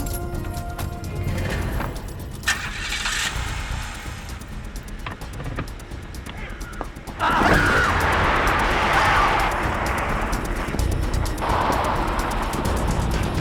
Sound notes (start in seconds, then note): 0.1 nervous murmuring; 3.0 engine revving; 7.1 screaming